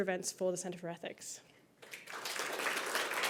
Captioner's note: applause